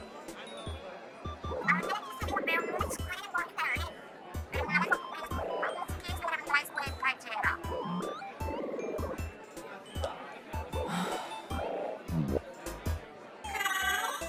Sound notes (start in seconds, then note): 10.8 she sighs from exhaustion, trying to stay awake for the diplomat duo's sake